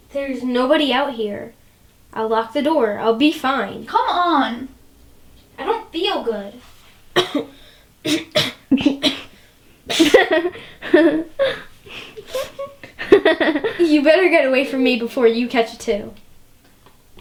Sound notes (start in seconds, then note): 7.1 coughing; 9.9 Emelie and Candice laughing